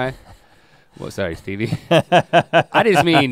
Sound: Rhett laughs

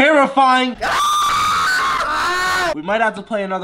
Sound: petrified screams

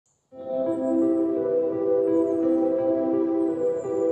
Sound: birds chirping

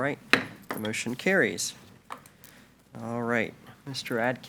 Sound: gavel bangs

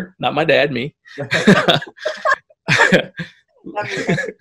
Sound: laughs

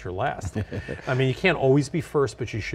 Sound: chuckles

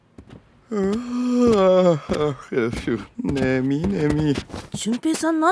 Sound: yawning

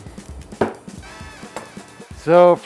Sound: knife knocks

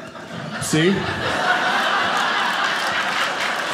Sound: audience laughing; audience applauding

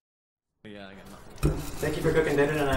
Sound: T.V. Show in background

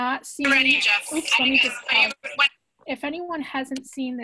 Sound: people talking in video

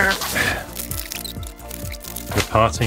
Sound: tape skipping forward

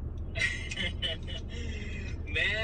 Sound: laughs

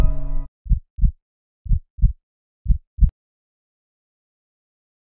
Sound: heartbeat thumping

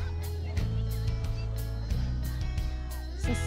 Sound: light upbeat music; beachgoers murmuring faintly

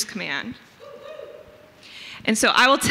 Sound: audience member hoots

